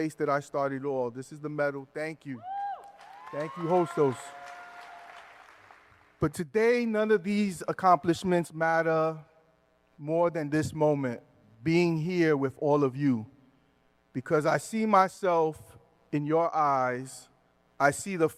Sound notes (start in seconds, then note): 5.3 cheers and applause